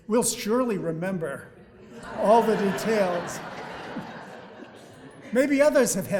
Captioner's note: audience laughing